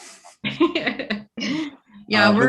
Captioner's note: laughs